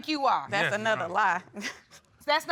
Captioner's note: chuckles